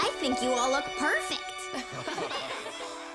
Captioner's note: laughing